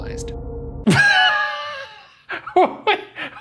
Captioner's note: laughing